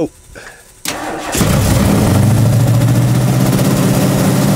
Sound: engine revving

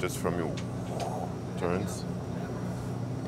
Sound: expels breath

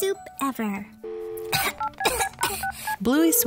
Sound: Bluey coughing

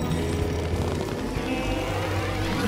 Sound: freeze noises

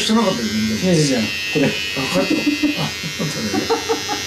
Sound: laughs

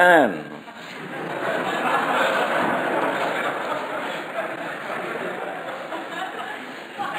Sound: audience laughter

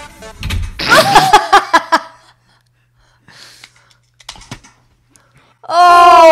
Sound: electronic music; door slams; both laugh; in Unison

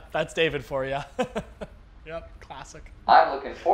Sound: laughs

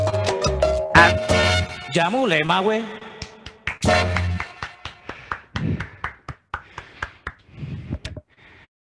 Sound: claps

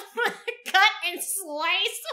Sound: both laugh

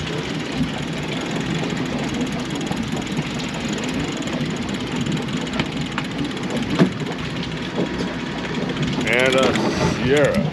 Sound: reel cranking

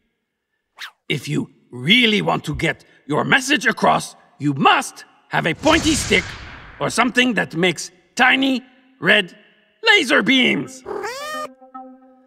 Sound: meows

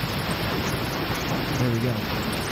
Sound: water splashing

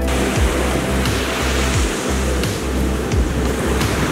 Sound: waves rushing

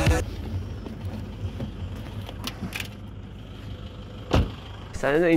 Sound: car engine noise; door closes

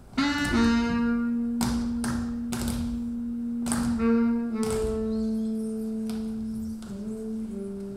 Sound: soft music; hands tapping

